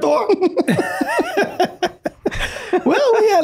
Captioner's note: everyone laughing